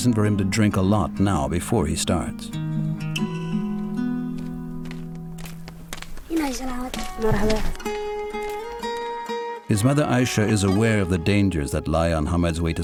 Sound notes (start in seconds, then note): 7.2 speaks in foreign language